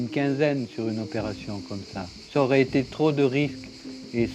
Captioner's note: speaking in French